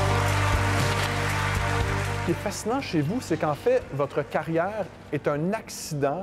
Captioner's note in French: applaudissements